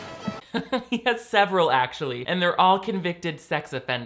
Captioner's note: laughs